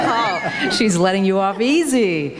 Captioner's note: laughs, Emmer laughs